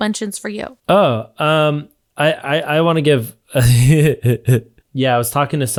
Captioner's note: chuckles